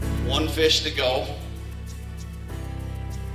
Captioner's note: voiceover